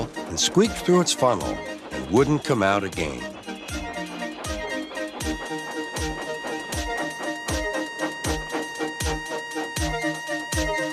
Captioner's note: Edward's whistle blows